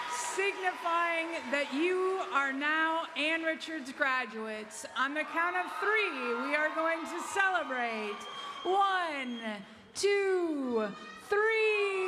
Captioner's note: applause